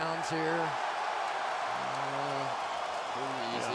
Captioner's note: cheering